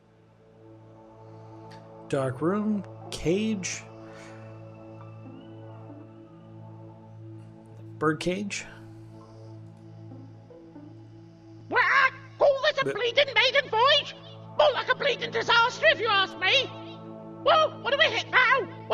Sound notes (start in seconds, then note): 11.7 squak